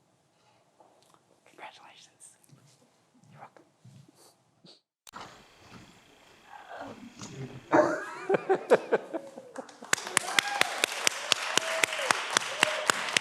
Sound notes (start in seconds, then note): 7.4 laughs; 9.5 everyone applauds